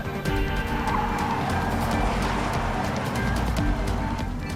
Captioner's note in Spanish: Ruido de los vehículos